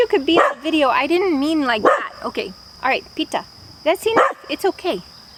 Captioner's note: barking